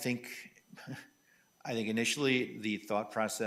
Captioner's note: chuckles